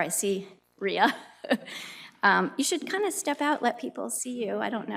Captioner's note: laughs